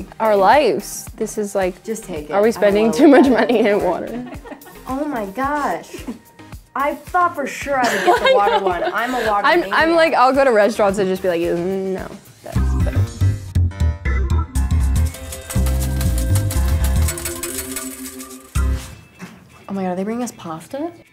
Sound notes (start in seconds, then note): 13.4 mellow music; 15.0 coins clinking